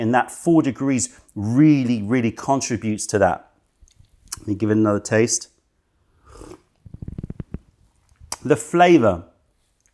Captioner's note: sips tea